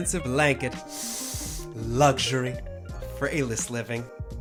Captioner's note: inhales